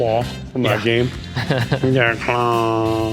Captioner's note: laughs